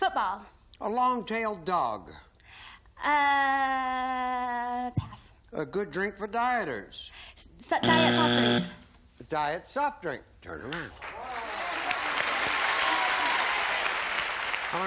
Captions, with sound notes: - Football. - A long-tailed dog. - Pass. - A good drink for dieters. - (buzzer) Diet soft drink. A diet soft drink. Turn around. (applause)